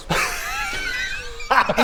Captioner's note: begrudgingly impressed laugh